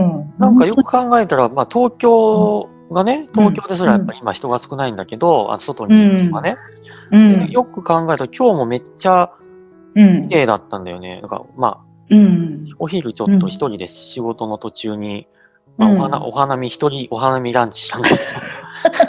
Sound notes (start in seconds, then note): 18.0 laugh